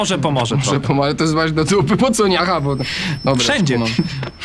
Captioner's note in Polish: śmiech